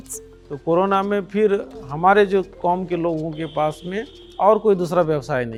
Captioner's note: speaking foreign language